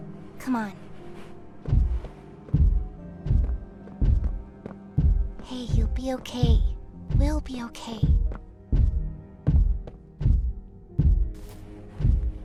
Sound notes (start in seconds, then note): 2.5 thuds; 10.2 thuds